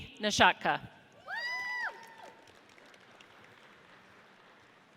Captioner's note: audience cheers